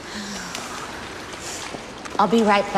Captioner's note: sighs